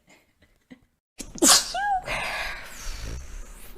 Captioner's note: laughs; sneezes